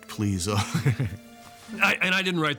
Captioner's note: chuckles